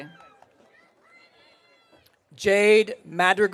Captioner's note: audience cheering